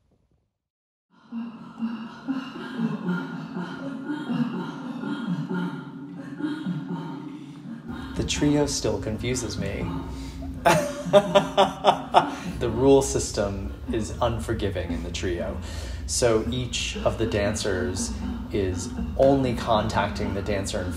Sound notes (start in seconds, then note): 1.4 gentle music; 9.6 laughs